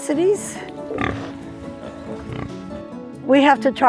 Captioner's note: pig snorts